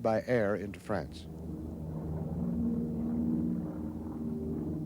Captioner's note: propellors whir